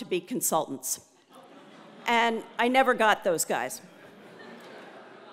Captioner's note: laugh